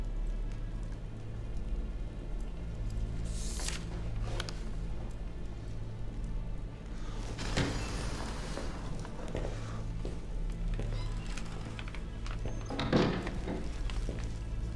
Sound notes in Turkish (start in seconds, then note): 7.2 Kapı açılma sesi; 12.3 Kapı kapanma sesi